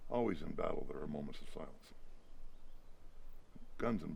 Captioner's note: none